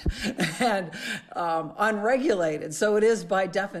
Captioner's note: laughing